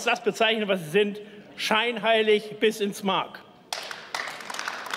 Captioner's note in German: Beifall